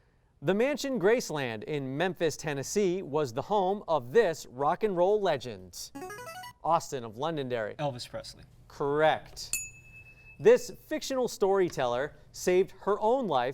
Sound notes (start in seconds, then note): 5.9 signaling device tone; 9.5 ding